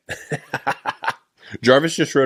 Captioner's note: laughs